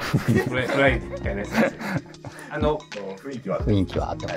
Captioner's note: laughing